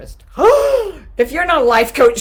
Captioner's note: shrieking